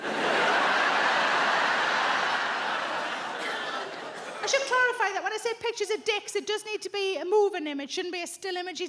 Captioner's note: audience laughs